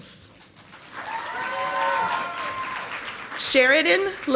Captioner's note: audience applauding